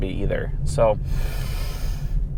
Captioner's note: inhales sharply